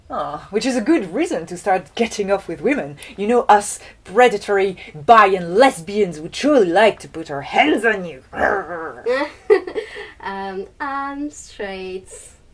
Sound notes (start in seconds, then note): 8.2 laugh; 8.3 dinosaur sound